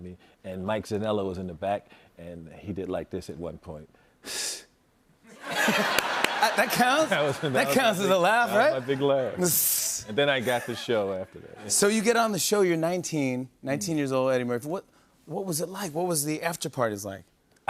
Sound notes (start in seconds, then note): 4.0 chuckles lightly